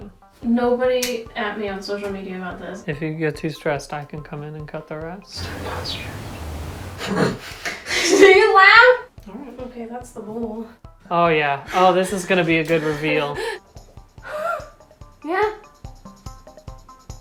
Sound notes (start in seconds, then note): 5.7 whispered; 14.3 laughing